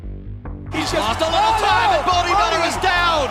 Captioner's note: announcers yelling